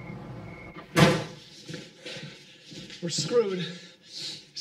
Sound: door Slams

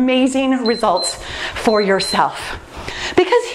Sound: timer beeps

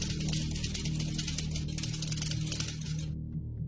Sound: typewriter sounds

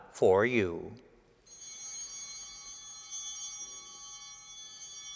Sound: bells ringing

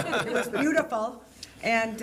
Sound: laughing

